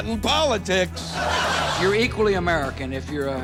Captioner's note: laughter